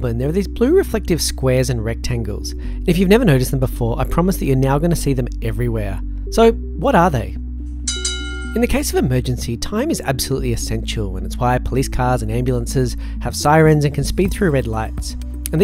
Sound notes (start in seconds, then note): 7.8 bell ringing